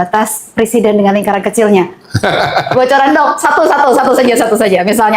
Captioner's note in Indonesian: tertawa